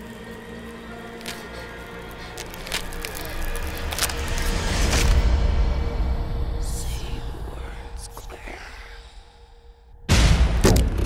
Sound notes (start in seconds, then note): 0.8 frightened breathing; 6.8 whispering